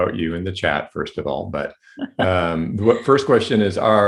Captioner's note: chuckling